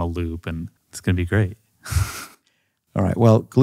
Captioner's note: chuckles